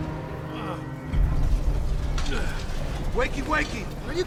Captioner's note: Frank grunting